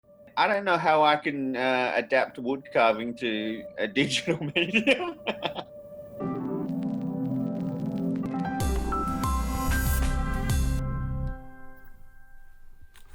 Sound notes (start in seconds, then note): 3.8 laughs; 6.0 soft music